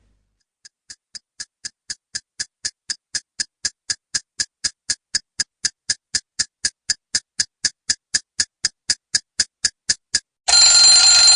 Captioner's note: sound of clock ticking